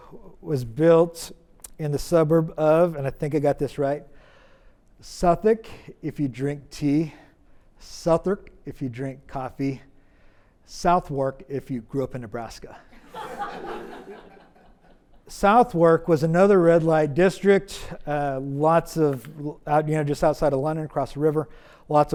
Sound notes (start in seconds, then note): 13.0 audience laughs